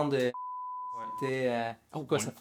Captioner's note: beep